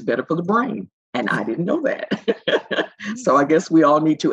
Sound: laughs

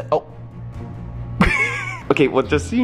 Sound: laughs

